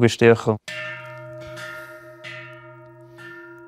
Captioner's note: deep bell sounds